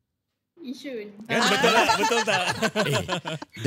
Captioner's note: laughing